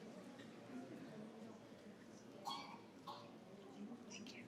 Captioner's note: participants chatter